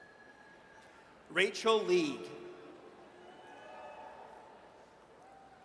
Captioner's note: audience cheers